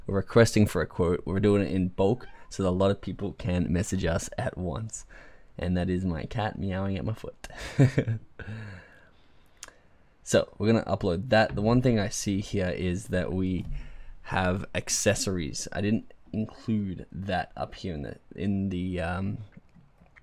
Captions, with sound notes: We're requesting for a quote, but we're doing it in bulk, (cat meowing) so a lot of people can message us at once, and that is my cat meowing at my foot. (laughing) So we're gonna upload that. The one thing I see here is that we have accessories. I didn't include that up here in the description up here.